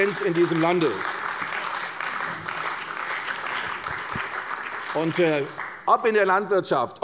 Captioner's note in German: Beifall bei der CDU und dem BÜNDNIS 90/DIE GRÜNEN